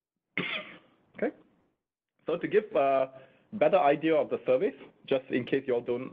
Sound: coughing

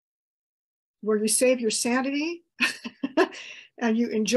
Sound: chuckles

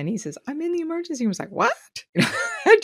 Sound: laughs

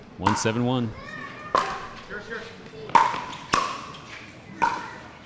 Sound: ball bouncing

